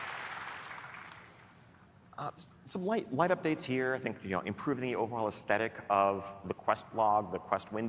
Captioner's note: applause and cheering